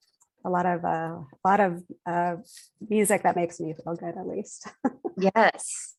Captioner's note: laughs